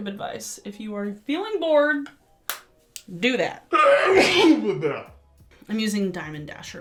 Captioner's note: sneezes